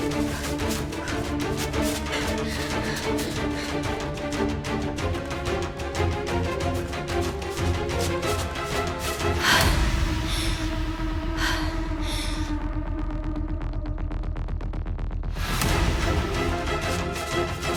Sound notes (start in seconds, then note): 0.1 slow dramatic music continues; 8.9 slow dramatic music continues; 9.7 Anya pants